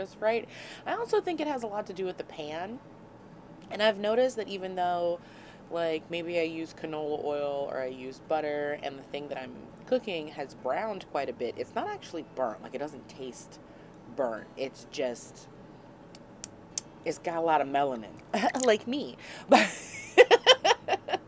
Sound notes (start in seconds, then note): 14.2 smacks lips; 19.6 hysterical giggling